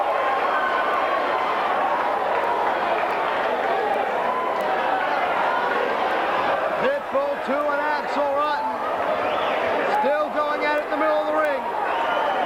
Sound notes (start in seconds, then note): 3.7 crowd chatter